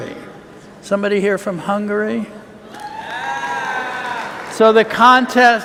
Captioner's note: cheers